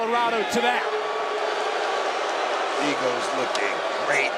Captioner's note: crowd boos